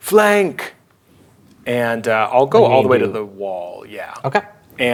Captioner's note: speaking quietly